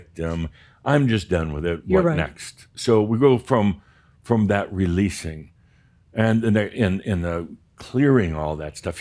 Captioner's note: none